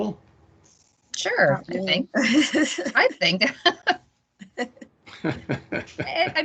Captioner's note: laughing